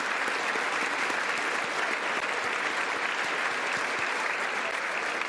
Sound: applause

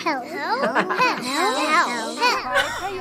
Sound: laughs

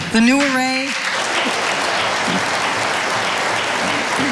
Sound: audience applauding

